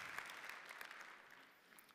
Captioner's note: applause